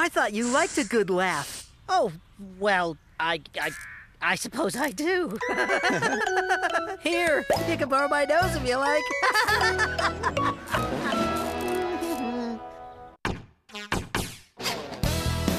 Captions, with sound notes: I THOUGHT YOU LIKED A GOOD LAUGH! OH, WELL, I-I-I SUPPOSE I DO! HA HA HA HA HA! HERE, YOU CAN BORROW MY NOSE, IF YOU LIKE! ( Laughter ) CAPTION TECHNOLOGIES INC. WWW.CAPTIONTECH.COM